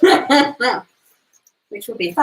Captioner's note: laughs